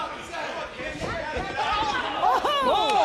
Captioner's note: crowd chatter